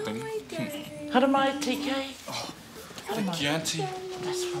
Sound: foreign language

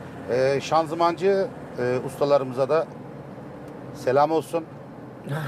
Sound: laughs

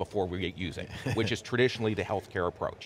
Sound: laughs

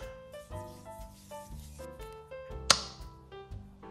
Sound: hands rubbing

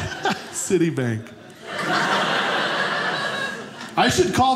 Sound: audience laughing

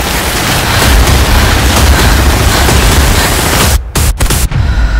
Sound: heavy breathing, getting faster and faster; slow breath echoing

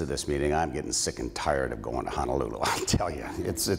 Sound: laughs

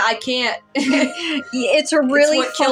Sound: both Laugh

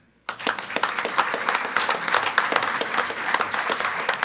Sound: group applauding

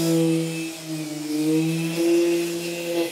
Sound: saw sawing

